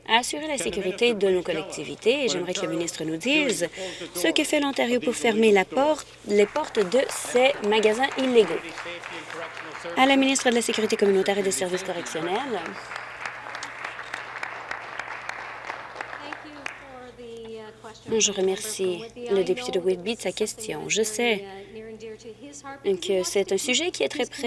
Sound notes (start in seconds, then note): 8.9 applause; 16.9 applause